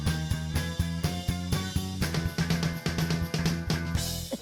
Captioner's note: child laughing